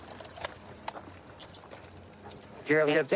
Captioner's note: handcuffs clicking